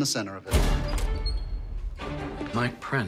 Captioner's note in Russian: Дверь скрипит